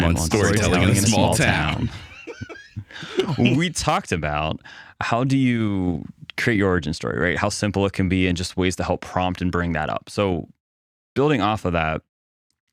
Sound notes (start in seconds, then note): 2.2 laughing